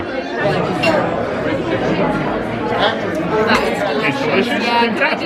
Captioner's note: diners murmuring